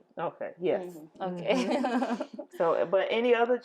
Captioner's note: laughing